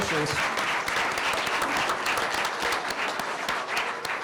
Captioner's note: applause